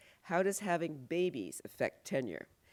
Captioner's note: none